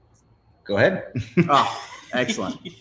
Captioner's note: both laughs